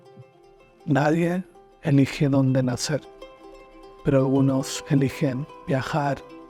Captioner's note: narrator speaking in foreign language